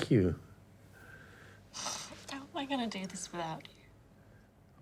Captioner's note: sniffling